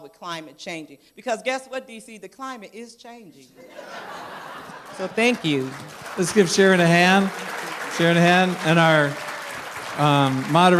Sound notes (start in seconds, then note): 3.6 laughter; 9.6 applause